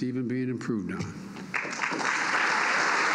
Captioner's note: applause